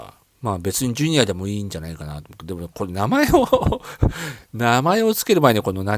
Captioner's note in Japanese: 笑い